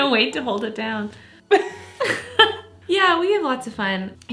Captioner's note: laughs